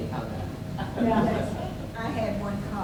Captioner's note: audience member laughs